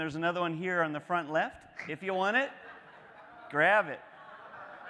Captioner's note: laughing